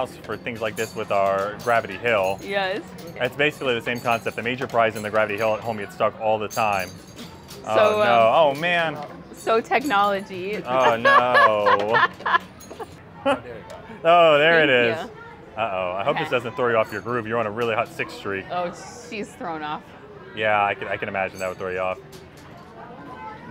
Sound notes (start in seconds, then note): 10.7 laughing